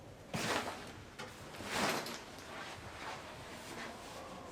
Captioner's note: curtain rustling